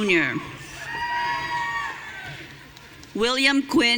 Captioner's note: audience cheering